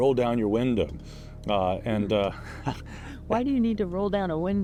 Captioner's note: chuckles